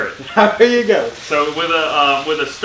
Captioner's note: chuckling